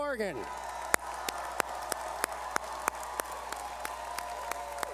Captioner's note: cheering